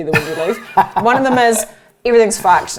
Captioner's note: laughs